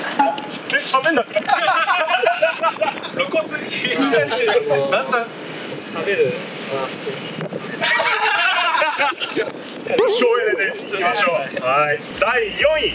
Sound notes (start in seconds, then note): 7.8 laughs